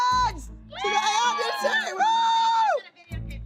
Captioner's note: girls cheer